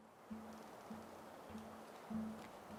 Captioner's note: the wind blows softly